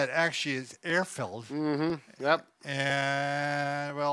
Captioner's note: hums agreeably